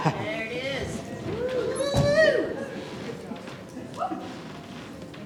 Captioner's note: cheering